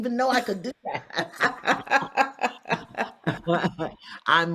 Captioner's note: both laugh